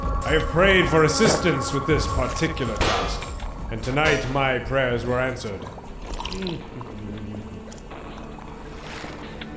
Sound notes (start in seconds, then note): 5.5 humming